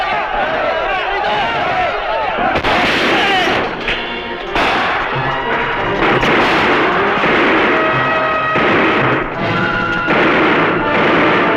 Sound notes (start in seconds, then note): 2.6 gunshot; 3.6 intriguing music; 5.6 gunfire